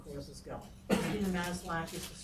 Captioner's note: coughing